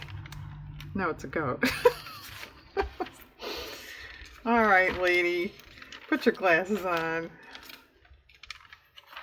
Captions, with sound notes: no, it's a goat (laughs) all right lady, put your glasses on